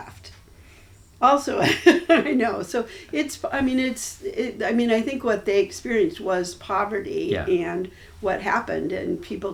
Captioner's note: laughs